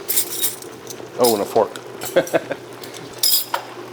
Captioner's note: laughs